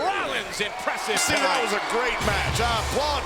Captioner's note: bell rings